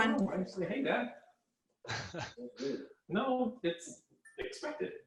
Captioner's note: chatter on the background